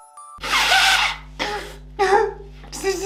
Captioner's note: sobs